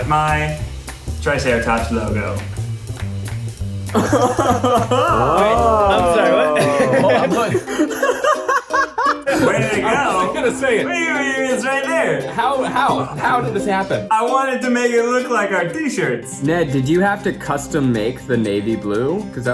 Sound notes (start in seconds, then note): 3.9 chuckles in the background; 7.7 laughing